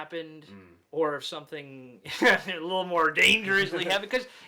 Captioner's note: chuckles